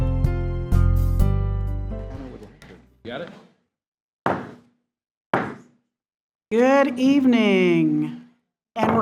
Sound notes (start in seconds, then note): 4.3 gavel bangs